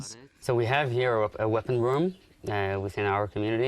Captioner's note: through translator